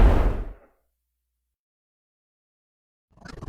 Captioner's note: gunshot exploding